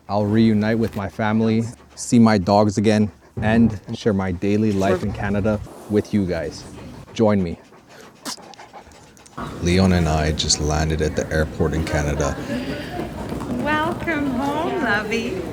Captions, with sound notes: I'll reunite with my family, see my dogs again, and share my daily life in Canada with you guys. Join me. [sneezes] Leon and I just landed at the airport in Canada. Welcome home, lovey.